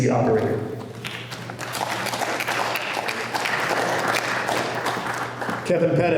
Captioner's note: applause